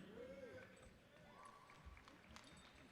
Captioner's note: applause